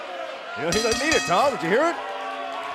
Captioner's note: bell ringing